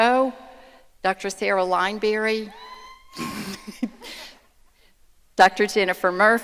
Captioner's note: laughs; audience cheering